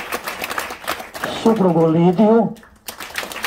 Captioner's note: applause…